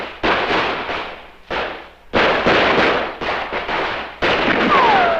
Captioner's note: gun shooting